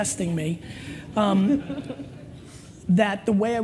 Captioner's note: laughter